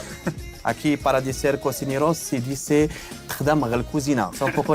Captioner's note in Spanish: habla en bereber